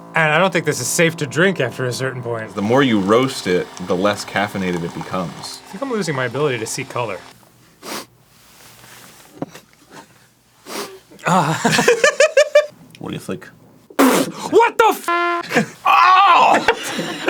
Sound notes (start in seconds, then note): 7.6 cautious sniff; 10.6 short sniff; 14.0 spits